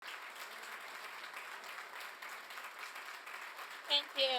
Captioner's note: applause